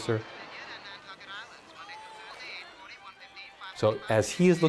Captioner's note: radio announcer talking on screen